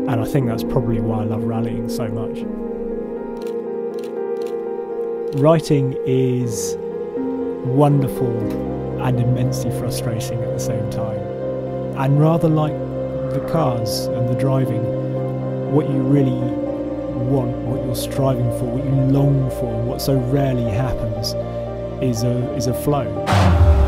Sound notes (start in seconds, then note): 4.3 camera clicks